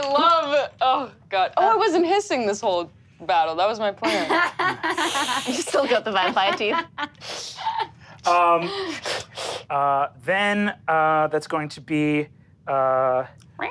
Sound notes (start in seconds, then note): 4.0 laughs; 7.2 hisses